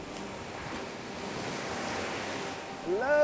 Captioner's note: waves crashing